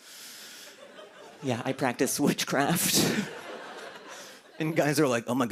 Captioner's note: laughter